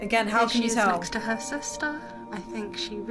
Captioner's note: woman's Voice